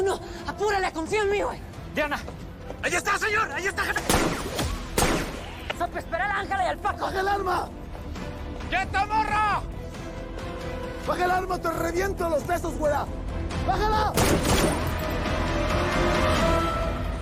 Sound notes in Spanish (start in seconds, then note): 14.1 Disparos